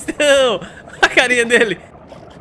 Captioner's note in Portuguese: risos